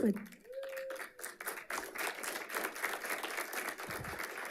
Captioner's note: audience applauding